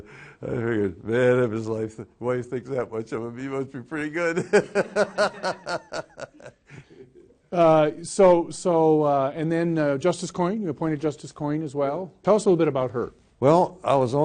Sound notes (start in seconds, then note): 4.3 laughs